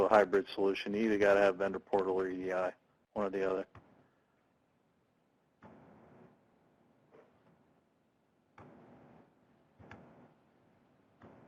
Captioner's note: intermittent Static